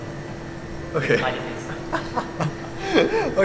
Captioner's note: more giggles